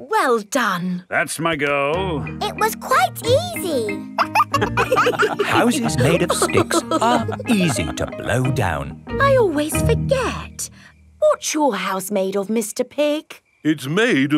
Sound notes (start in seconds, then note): 4.1 wolves laughing